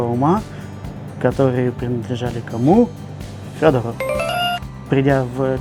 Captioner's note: bingo sound